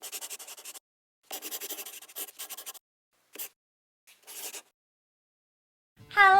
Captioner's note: the sound of a pen scratching